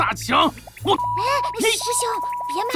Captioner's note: cursing